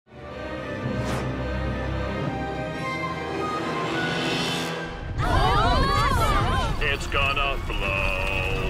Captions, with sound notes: [groaning] It's gonna blow.